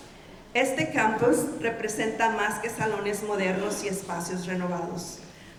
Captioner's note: speaking in Spanish